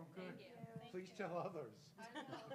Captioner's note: laugh